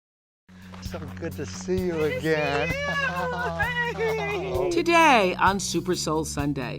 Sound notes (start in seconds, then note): 2.4 both laugh